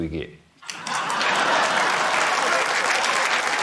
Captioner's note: laughter, applause